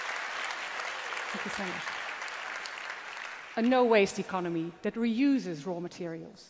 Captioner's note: applause